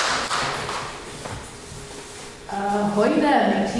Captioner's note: audience clapping